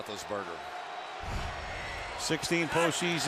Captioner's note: swoosh